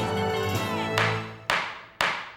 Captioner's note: gavel banging